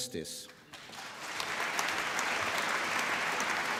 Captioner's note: applause